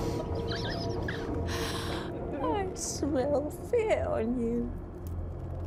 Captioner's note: laughing